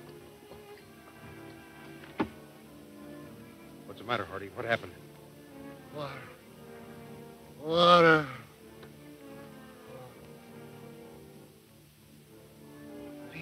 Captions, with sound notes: What's the matter Hardy? What happened? - Water. Water! (moaning)